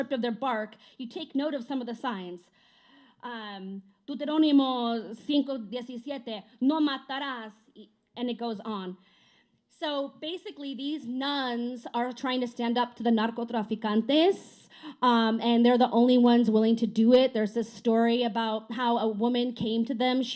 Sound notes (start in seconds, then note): 4.2 speaking spanish